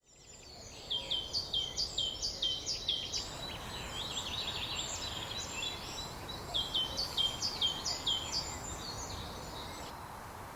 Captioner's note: birds chirping